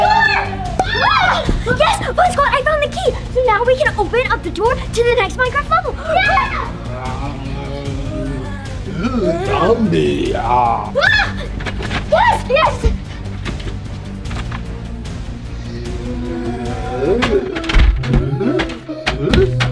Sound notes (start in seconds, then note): 6.7 both growling; 11.5 door opens; 15.6 both growling